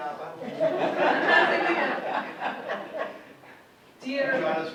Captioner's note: audience laughs